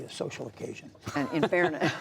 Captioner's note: laughter